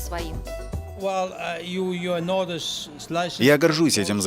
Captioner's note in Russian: английская речь